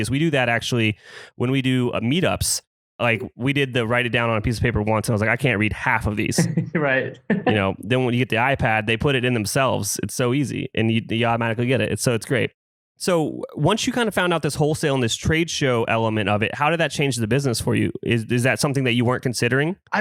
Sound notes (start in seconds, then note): 6.3 laughs